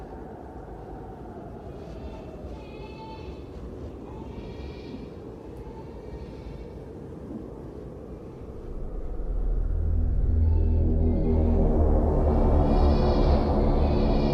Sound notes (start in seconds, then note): 2.0 baby crying; 10.5 ominous music